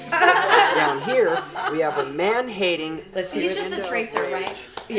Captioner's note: all the lesbians/bisexuals laugh